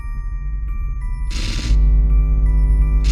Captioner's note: static